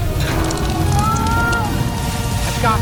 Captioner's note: man strains forcing